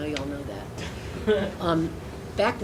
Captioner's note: laughing